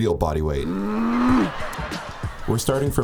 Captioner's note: growling, audience laughing